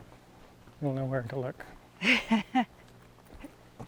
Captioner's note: laughs